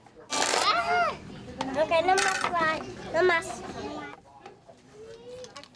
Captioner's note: children speaking in Spanish